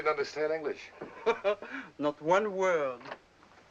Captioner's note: laughs